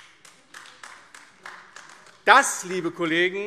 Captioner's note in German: Beifall AfD